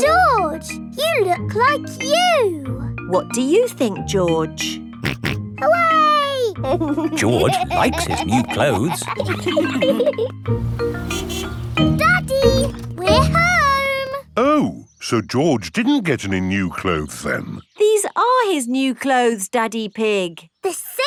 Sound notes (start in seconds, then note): 6.6 snorts and laughs; 10.6 horn honks